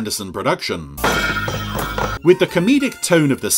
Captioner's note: metal clanging